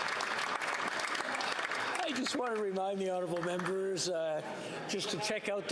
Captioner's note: some Applause